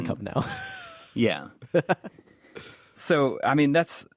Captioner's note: laughs